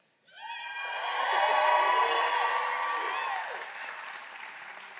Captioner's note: audience cheering